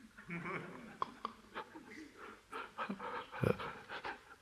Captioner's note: panting